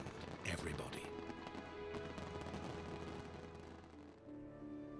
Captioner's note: fireworks popping; dramatic orchestral music